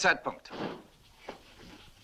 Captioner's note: stamps floor